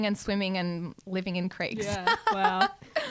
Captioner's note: laughs